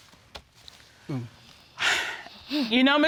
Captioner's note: sighs